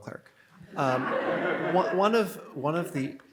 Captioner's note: audience laughs